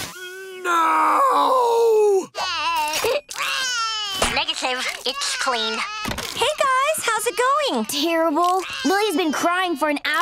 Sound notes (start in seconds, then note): 0.6 crying